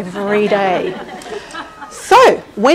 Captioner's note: laughing